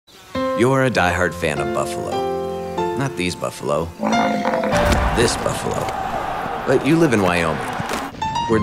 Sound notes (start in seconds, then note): 3.9 buffalo bellows; 4.6 crowd cheers